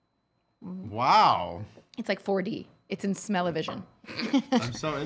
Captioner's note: laughs